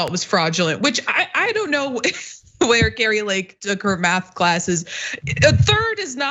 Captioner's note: laugh